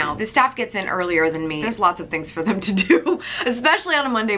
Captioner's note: laughs